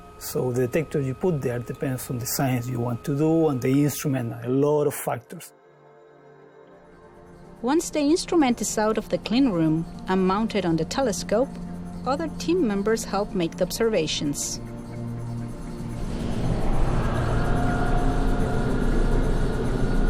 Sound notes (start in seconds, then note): 16.4 machine running